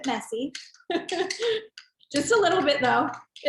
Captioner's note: laughing